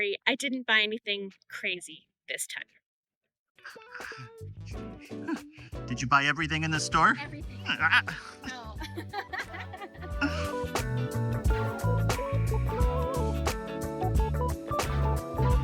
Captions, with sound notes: Don't worry, I didn't buy anything crazy ...this time. Did you buy everything in the store? Everything? No. *Laughing*